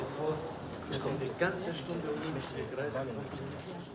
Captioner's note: chattering in german